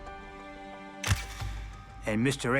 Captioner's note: camera clicks